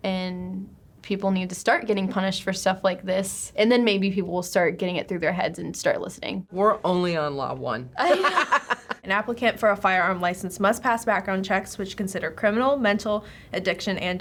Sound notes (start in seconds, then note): 8.0 both laugh